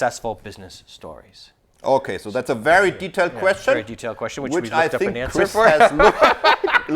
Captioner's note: laughs